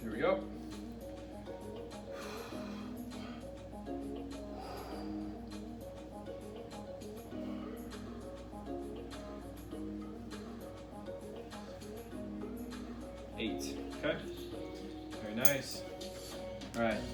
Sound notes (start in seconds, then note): 1.8 upbeat music; 4.4 breaths; 6.0 upbeat music; 7.3 breaths; 8.0 upbeat music; 9.8 breaths; 9.8 upbeat music; 16.1 upbeat music